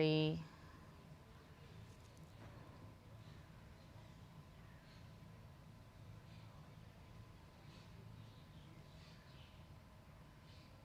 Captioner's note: pauses 10 seconds